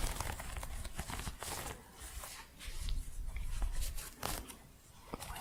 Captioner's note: scratching